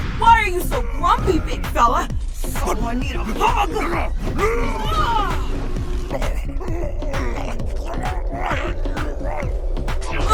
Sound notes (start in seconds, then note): 4.4 shouts; 6.8 Mon-Gor grumbles